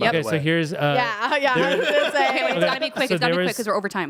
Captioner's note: everyone laughs